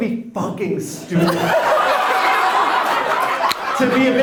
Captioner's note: everyone laughs